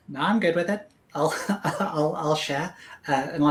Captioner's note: laughs